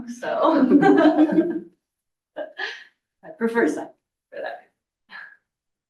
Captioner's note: laughs